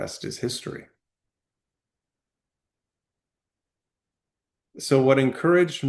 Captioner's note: pause